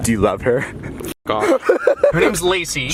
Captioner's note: laughs